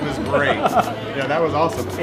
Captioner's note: laughs